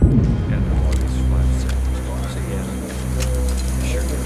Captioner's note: soldiers chattering